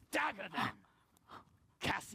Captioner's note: gasps